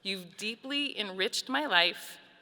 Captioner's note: none